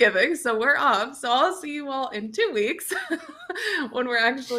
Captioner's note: chuckles